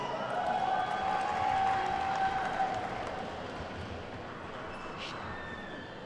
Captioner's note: attendees whooping and clapping